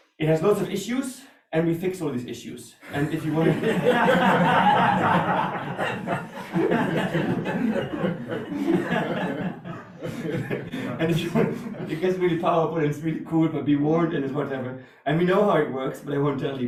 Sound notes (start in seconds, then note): 2.9 audience laughter